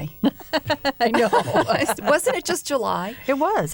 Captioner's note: laughter